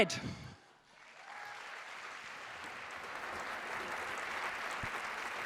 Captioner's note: audience applauding